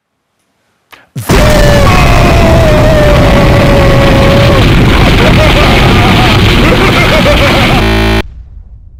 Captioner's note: nuclear explosion out of nowhere